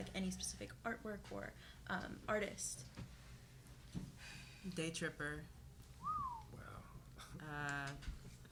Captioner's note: someone whistles in awe